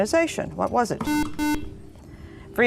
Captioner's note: buzzer